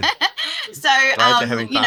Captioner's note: laughing